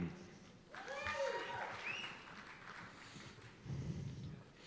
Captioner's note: cheers and applause